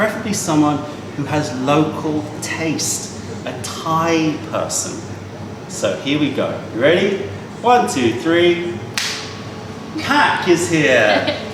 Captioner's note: snaps fingers